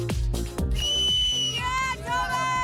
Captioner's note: whistles